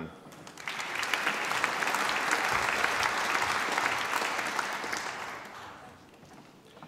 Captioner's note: applause